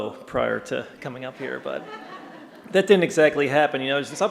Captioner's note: laughter